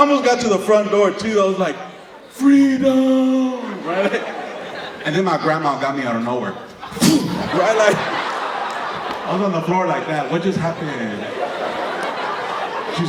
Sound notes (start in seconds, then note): 6.9 kicking sound